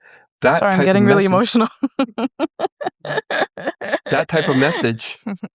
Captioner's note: laughs